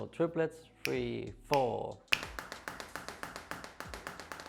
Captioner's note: fingers snapping on beat; slow to rapid drum beat